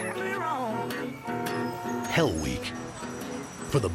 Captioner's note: car horns honking